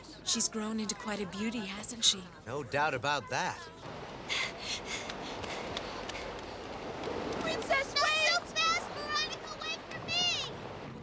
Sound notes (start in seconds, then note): 4.2 panting